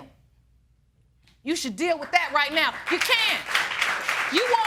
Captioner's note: audience applauding